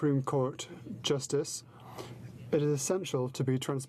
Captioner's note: speaking in french